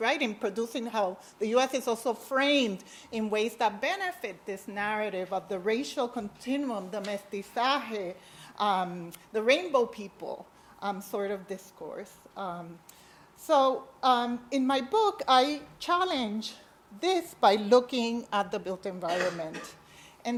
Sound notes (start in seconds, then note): 7.3 speaks foreign language